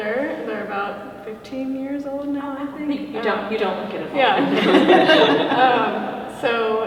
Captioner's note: laughter